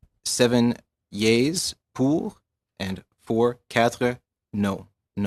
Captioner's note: speaking French